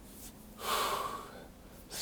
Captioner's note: exhales